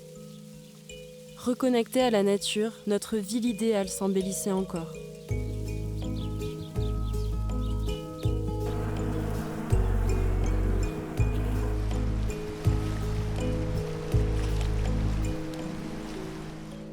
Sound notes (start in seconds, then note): 5.3 cheerful music; 6.6 birds chirping; 8.5 bees buzzing; 15.4 music stops